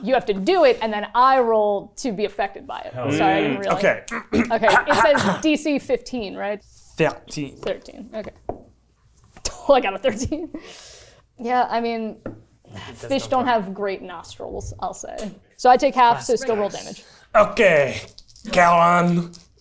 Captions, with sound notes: You have to do it and then I roll to be affected by it. - Hell yeah. - Mm, okay. (clears throat) - Okay, it says DC15, right? - 13. - 13, okay. I got a 13. Yeah, I mean, fish don't have great nostrils, I'll say. So I take half, so still roll damage. - Okay, Karen.